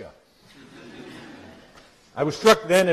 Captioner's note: laughter